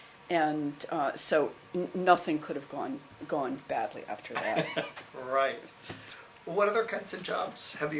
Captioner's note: laughs